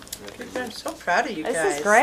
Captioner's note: voiceover